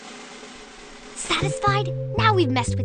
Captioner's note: whispering